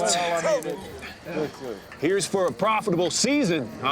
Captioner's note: men chattering